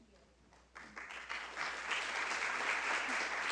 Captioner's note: applause